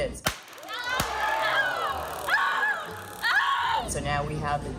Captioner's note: both screaming; taser buzzing